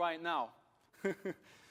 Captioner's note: laughter